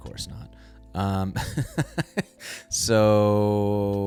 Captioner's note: chuckles